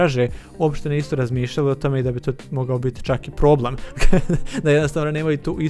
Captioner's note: laughs